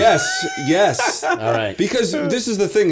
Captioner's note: laughter